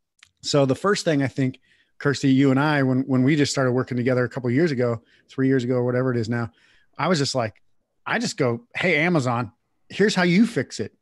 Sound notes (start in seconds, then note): none